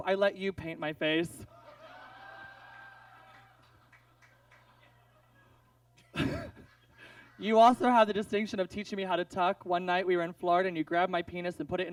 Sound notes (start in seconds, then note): 1.6 audience laughs; 6.0 laughs